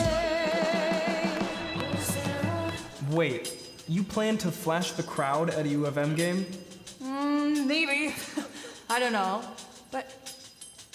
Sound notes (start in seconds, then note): 8.0 chuckling